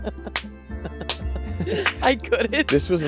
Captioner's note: laughing; clapping